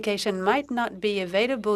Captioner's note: speaking in French